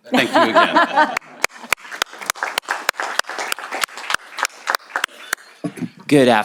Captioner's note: applause